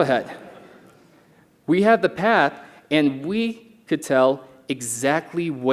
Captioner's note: laughter